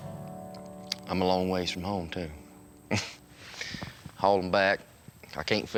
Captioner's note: chuckles